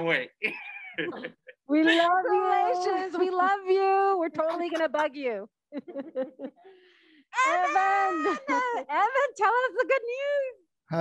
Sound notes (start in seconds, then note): 0.4 laughing; 5.7 laugh